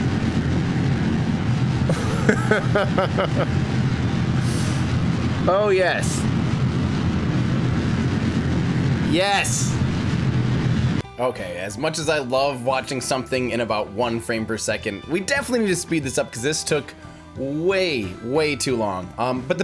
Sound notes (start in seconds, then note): 1.9 laughing; 9.2 rocket blasting